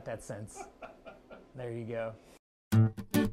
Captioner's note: laughter